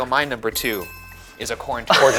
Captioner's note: bell chiming